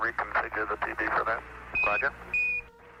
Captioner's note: radio transmission